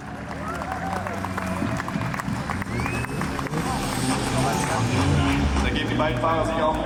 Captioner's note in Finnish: Aplodeja